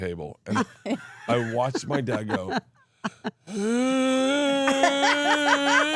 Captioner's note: Bert wheezing; Steph laughs